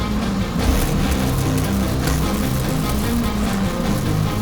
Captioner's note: zapping